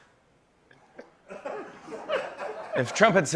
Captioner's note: laughter